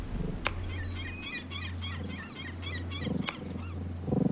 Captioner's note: birds chirping